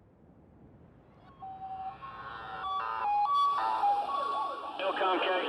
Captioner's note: sirens blaring